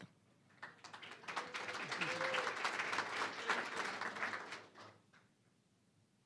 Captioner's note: applause